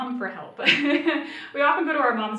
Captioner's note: giggling